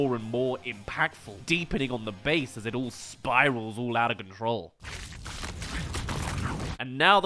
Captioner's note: deeper cracks